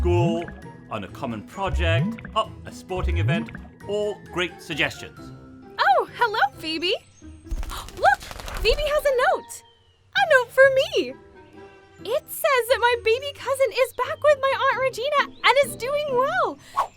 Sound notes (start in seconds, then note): none